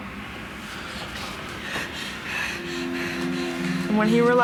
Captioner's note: panting